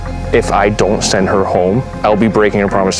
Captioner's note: none